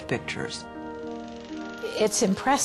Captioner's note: film rolling; voiceover